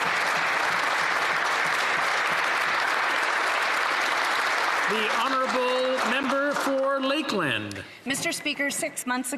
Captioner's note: applause